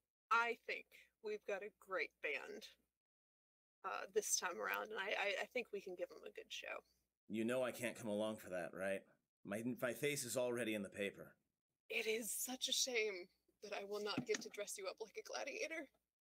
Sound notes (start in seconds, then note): none